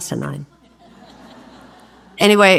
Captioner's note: audience laughs